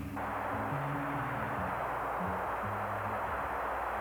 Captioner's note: Static